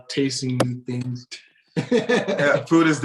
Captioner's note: laughs